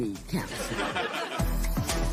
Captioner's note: laughter